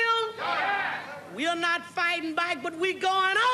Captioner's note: audience exclaims